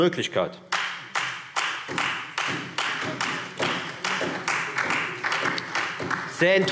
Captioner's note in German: Beifall Freie Demokraten und vereinzelt SPD